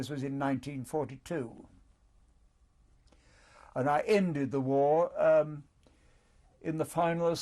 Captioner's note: pauses for 3 seconds